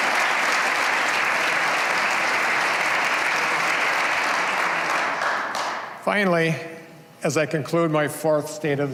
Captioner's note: cheers and applause